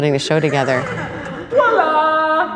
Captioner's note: laughter